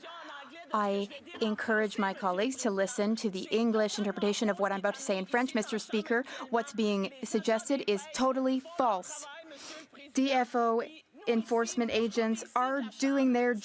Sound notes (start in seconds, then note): 3.5 speaking French